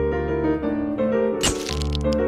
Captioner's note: camera bulb fizzes